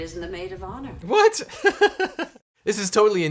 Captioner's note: laughs